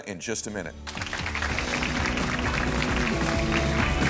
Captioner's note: applause; upbeat music